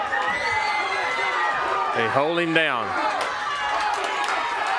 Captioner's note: crowd cheering